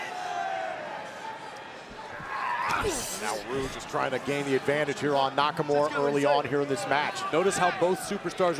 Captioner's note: crowd chatter